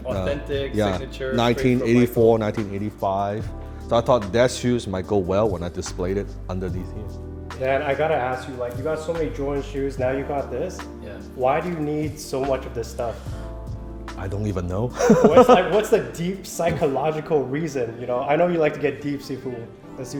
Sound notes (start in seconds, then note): 15.0 laughs